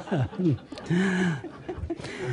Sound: laughter

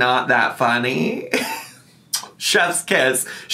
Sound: laughs softly; lips smack softly

